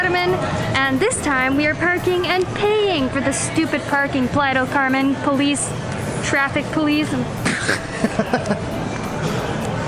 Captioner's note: laughs